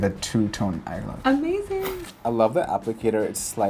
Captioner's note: whooshing